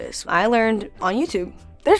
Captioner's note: none